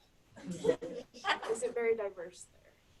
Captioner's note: class laughs